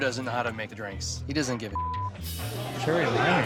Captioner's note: beep